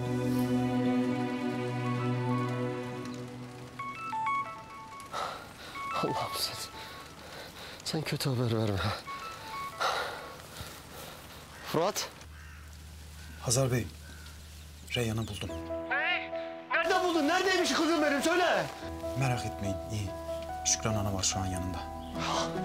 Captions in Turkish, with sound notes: [Telefon çalıyor] Allah'ım sen... Sen kötü haber verme. Fırat. Hazar Bey, Reyyan'ı buldum. Ne? Nerede buldun? Neredeymiş kızım benim, söyle! Merak etmeyin, iyi. Şükran Anne var şu an yanında.